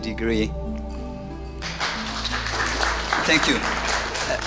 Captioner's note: applause